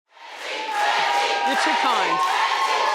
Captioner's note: crowd chanting